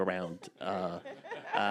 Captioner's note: chuckling